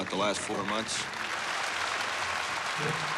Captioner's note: applause